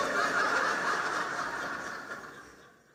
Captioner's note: laughter